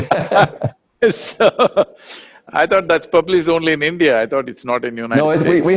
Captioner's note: both laugh